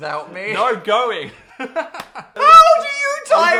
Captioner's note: people laughing